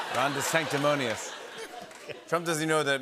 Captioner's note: laughter